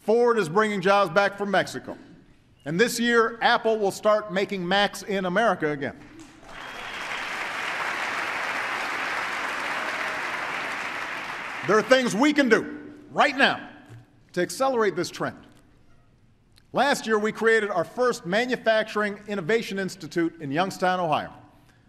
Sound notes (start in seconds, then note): 6.0 applause